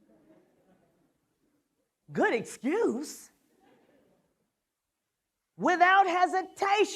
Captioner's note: laughter